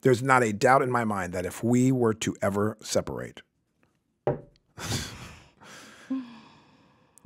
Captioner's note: knocks on table